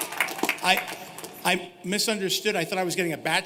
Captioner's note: cheers and applause